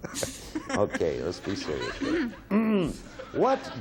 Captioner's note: clears throat